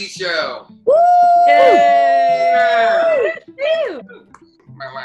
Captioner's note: people cheering